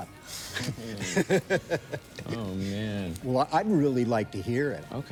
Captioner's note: laughter